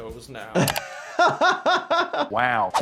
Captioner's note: laughing